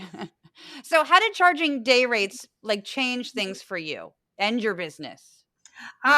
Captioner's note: laugh